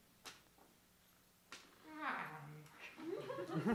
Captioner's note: yawn